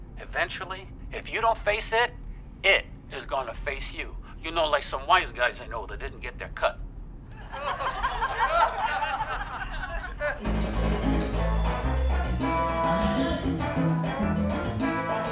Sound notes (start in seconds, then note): 7.4 audience laughing; 10.1 singing in foreign language; 10.4 energetic music